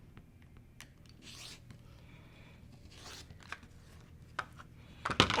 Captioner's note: cutting sound